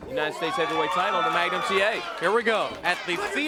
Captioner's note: crowd chatter